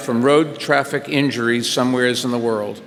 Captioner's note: none